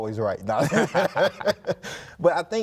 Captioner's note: both laughing